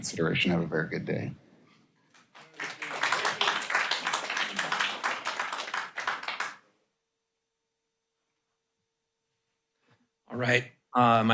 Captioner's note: applause